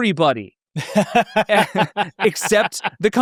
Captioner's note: both laughing